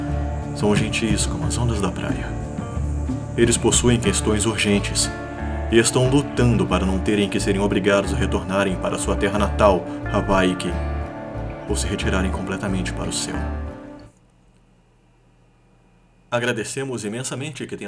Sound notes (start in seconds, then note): 14.2 very echological silence